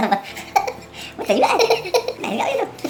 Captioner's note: ekekeke